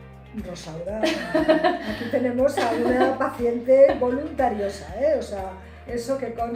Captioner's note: laughs